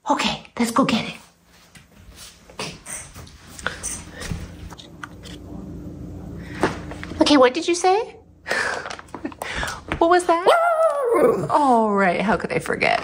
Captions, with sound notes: Okay, let's go get it. Okay, what did you say? [LAUGH] What was that? [howling] Alright, how could I forget?